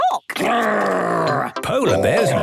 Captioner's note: loud growls